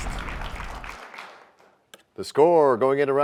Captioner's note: crashing sound